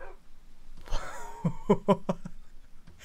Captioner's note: laughs